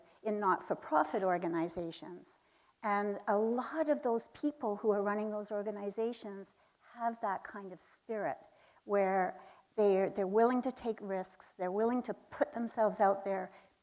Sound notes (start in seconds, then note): none